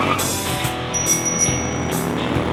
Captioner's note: bike bell dings; engine rumbles